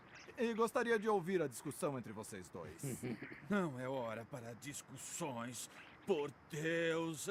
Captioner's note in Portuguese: limpando a garganta